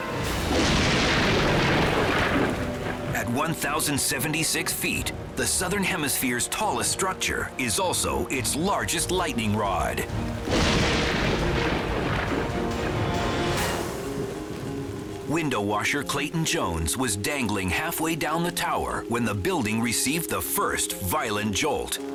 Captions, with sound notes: (thunder booms) At 1,076 feet, the southern hemisphere's tallest structure is also its largest lightning rod. (thunder booms) Window washer Clayton Jones was dangling halfway down the tower when the building received the first violent jolt.